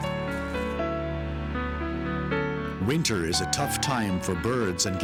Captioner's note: leaves rustling; solemn piano music